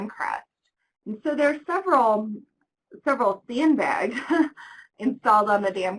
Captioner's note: laughs